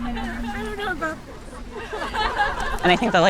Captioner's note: everyone laughing